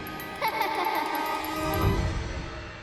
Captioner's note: laughing